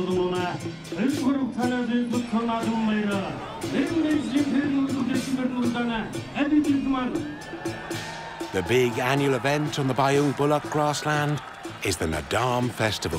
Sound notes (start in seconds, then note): 8.5 crowd cheering